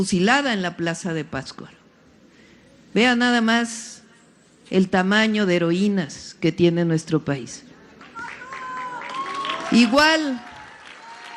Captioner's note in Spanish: aplausos